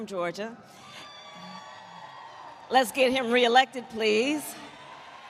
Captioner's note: applause